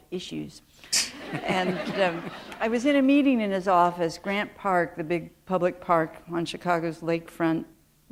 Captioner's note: laughter